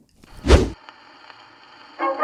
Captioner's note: swoosh sound effect